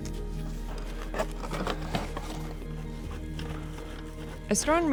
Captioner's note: tripod scraping